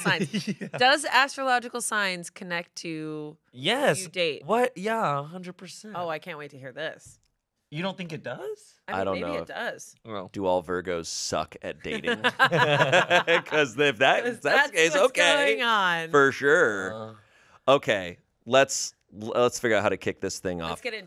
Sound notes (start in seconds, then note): 11.9 everyone laughs